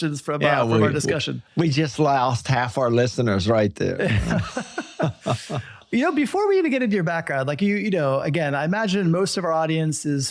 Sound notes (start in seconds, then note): 4.0 laughing